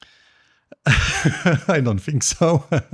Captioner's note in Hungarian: nevetés